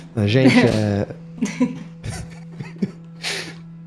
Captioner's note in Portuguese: Risadas